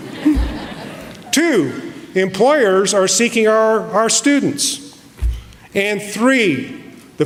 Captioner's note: laughter